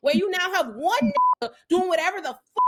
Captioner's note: beep